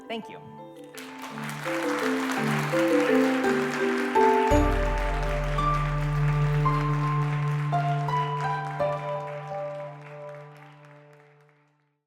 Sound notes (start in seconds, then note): 1.5 applause